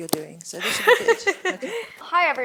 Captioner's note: laughs